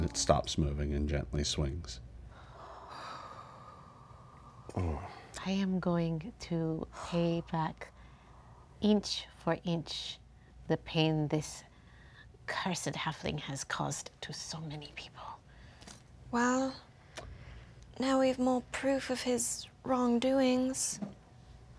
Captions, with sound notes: - Oh. - And it stops moving and gently swings. (players sigh) - I am going to pay back inch for inch the pain this cursed halfling has caused to so many people. - Well. Now we've more proof of his wrong doings.